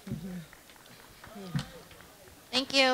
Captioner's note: crowd clapping